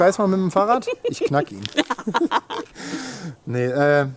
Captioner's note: laughter